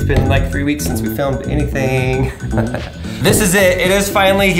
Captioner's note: laughs